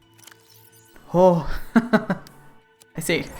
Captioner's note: laughs